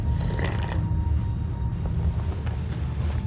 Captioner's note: slurping